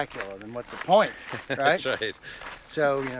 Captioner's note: laughs